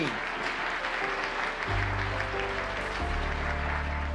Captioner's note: audience clapping